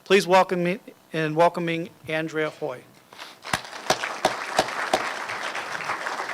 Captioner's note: applause